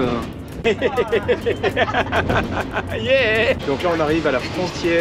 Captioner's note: laughs